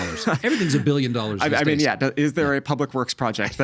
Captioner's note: laughing